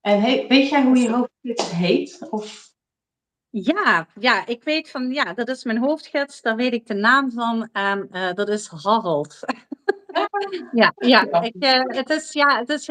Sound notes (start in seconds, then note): 9.3 laughs